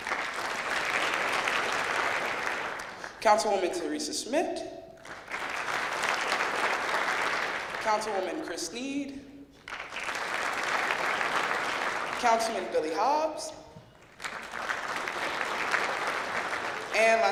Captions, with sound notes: (clapping) Councilwoman, Teresa Schmidt. (clapping) Councilwoman, Chris Snead. (clapping) Councilman, Billy Hobbs. (clapping)